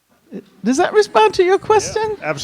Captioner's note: chuckles